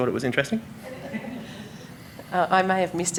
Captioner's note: audience laughing